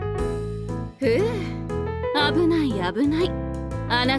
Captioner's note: sigh